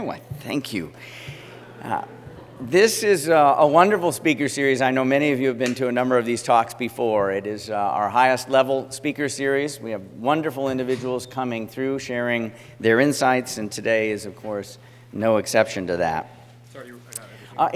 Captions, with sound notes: Why, thank you. [LAUGHTER] This is a wonderful Speaker Series. I know many of you have been to a number of these talks before. It is our highest level Speaker Series. We have wonderful individuals coming through, sharing their insights. And today is, of course, no exception to that.